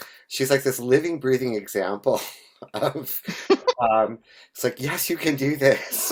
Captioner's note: chuckles